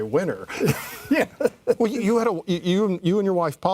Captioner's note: laughing